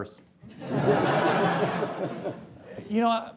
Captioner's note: laughing